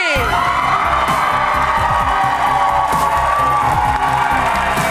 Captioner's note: cheering and applause